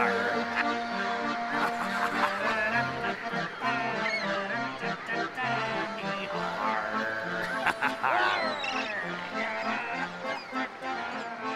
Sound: humming the tune

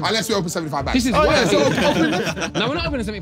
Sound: everyone laughing

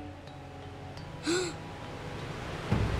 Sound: gasping

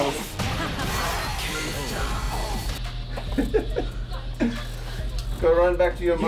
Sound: laugh

